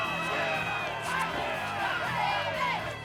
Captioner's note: shouting